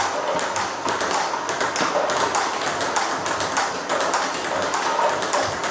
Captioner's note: ball ping pong hitting continues